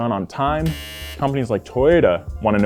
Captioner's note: buzzer